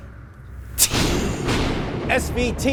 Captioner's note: thunder rumbles